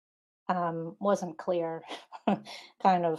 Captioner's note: laughing